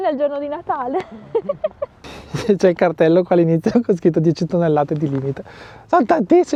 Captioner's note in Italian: risate